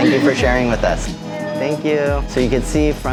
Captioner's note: chuckles